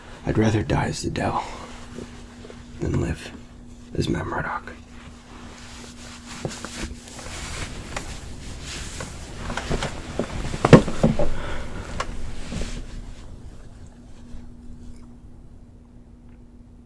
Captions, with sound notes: I'd rather die as the Devil... than live as Matt Murdock. [chair creaks] [sighs]